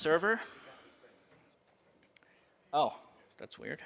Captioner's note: background talk